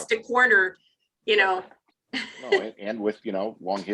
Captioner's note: laughs